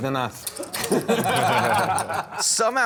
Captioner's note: laughter